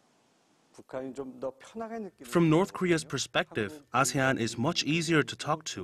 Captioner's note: Korean